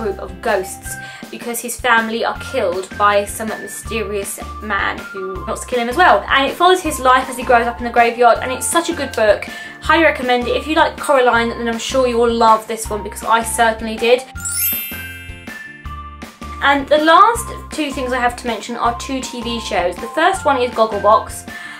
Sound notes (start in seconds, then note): 14.3 bell transition sound effect